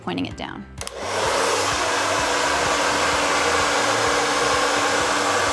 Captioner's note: blow dryer running